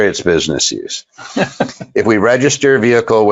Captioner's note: laughs